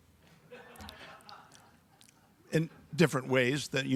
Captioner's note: audience laughs